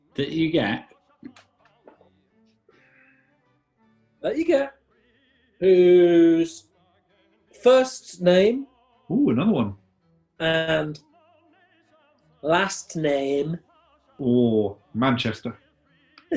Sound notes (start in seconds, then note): 11.9 exaggerated northern accent; 16.2 chuckling